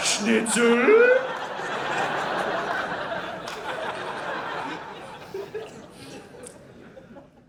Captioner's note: audience laughing